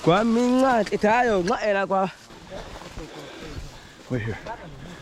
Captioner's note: hunter speaking native language